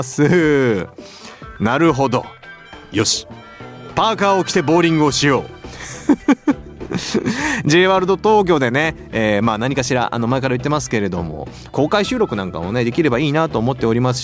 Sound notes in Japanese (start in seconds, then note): 5.6 笑い